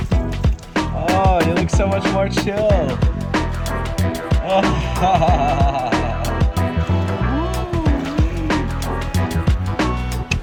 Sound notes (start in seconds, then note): 4.2 laughing